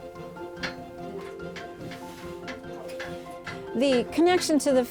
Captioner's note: hitting sound